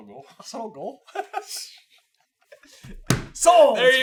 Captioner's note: giggling